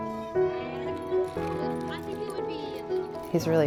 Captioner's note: kids chattering